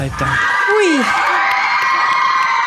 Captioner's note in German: Jubel